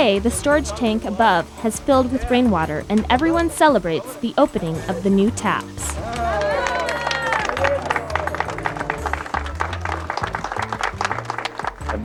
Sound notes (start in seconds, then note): 3.2 cheering and applause